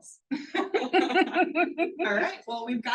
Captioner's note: person laughing